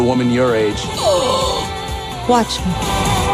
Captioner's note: gasps